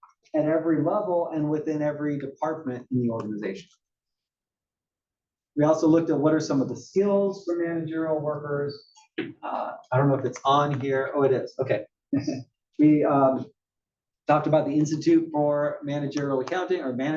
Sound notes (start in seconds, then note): 12.2 laugh